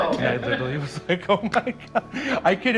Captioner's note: laughing; laughing